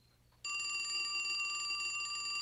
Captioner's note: telephone ringing